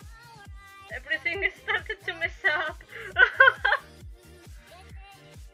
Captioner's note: laugh